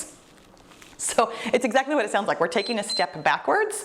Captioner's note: timer beeps